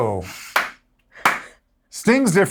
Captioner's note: clapping